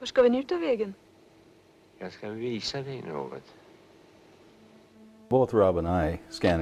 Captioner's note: man and woman speaking Scandinavian